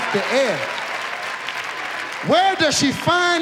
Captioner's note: audience applauds